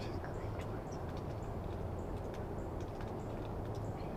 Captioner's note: whispering